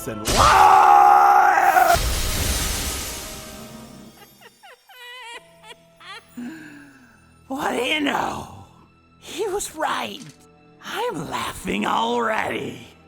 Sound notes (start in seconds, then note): 0.2 death SFX; 0.4 Godfree screams in pain; 4.0 Kuradeel cackling sinisterly; 6.4 Kuradeel takes deep breath